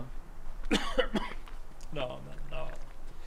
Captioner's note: coughs